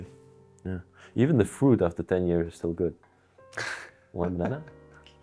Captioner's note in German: Musik-Zwischenspiel; lacht